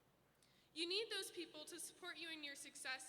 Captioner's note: none